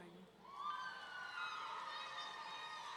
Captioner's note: audience cheering